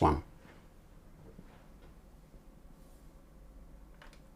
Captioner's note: silence